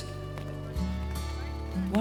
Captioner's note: feet clomping